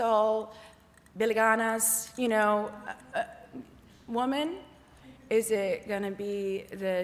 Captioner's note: non-english